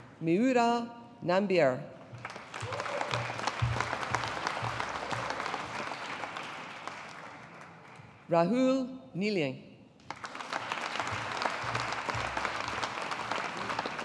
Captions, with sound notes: Mayoora Nambiar. (AUDIENCE APPLAUDING) Rahul Neeli. (AUDIENCE APPLAUDING)